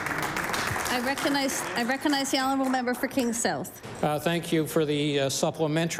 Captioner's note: applause